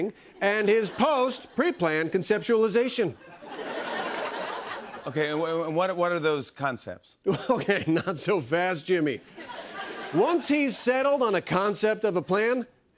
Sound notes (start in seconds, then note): 3.2 laughter